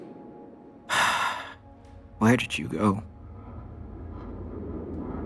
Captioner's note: sigh; airplane flyover